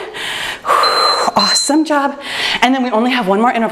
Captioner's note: timer beeps